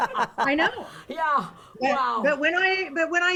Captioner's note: hosts laugh